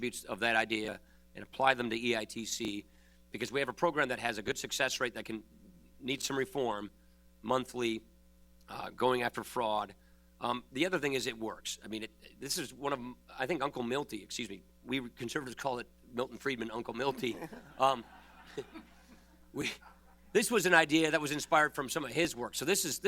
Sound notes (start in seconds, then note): 17.1 laughter